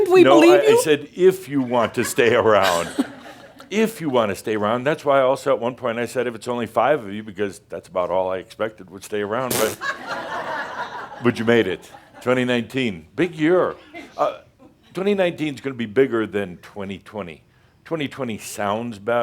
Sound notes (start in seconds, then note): 1.6 some chuckles; 9.6 laughter